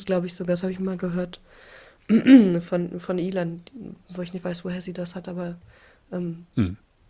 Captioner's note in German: räuspern